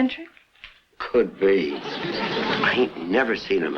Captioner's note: audience laughs